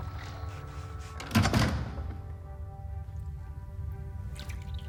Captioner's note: door closes